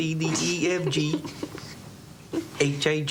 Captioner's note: Lulu chuckles